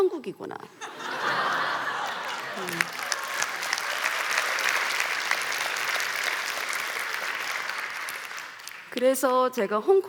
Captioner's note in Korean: 웃음과 박수